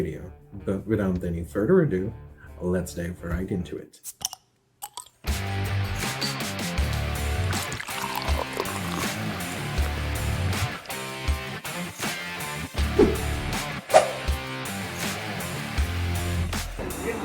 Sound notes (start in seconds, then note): 4.2 bottle cap pops off; 5.3 rock music plays; 6.9 beer is being poured; 12.0 rock music plays